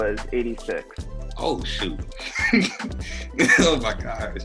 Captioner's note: laughs